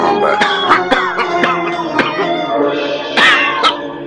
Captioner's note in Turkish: Öksürükler